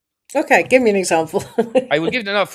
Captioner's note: laughs